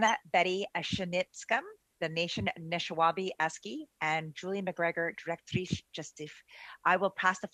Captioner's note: speaking French